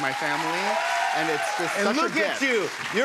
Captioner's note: cheers and applause